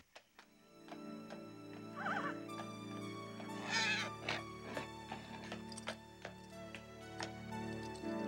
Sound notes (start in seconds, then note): 3.3 Toshiko neighs